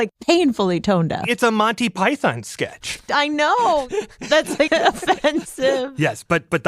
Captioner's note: laughs